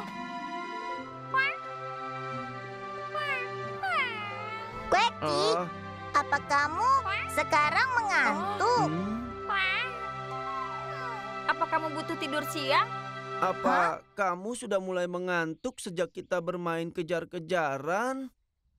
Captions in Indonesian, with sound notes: [menguap] Quacki, apa kamu sekarang mengantuk? Apa kamu butuh tidur siang? Apa kamu sudah mulai mengantuk sejak kita bermain kejar-kejaran?